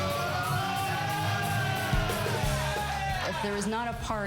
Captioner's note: cheering